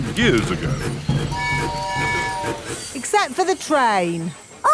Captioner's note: train tooting